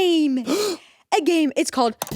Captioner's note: Jacksepticeye gasps